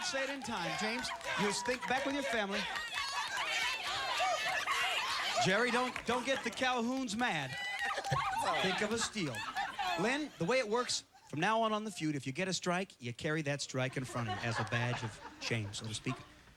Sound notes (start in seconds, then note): 2.9 cheering